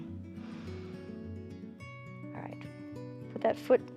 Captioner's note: inhales